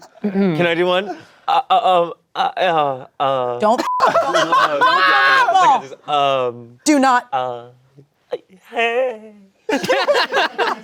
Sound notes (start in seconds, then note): 3.8 beep; 9.7 everyone laughing